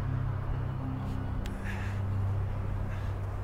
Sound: wind blowing

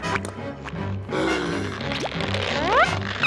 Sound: gasping

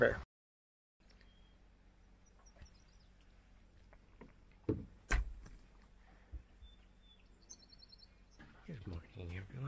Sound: sound of water and birds chirpping

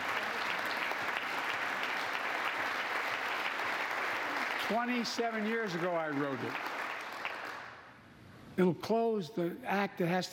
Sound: applause

